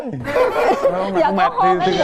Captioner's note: laughing